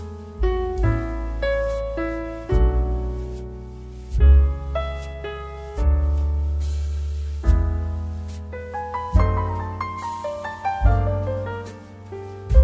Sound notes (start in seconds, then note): 6.6 slip